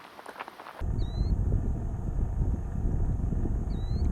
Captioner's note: wind blowing